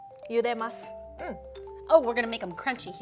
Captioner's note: speaking Japanese